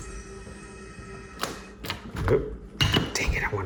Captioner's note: lock clicks